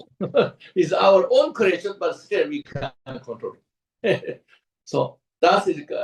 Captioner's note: laughs; laughs